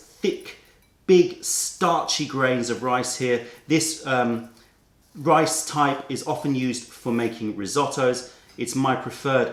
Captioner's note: dishes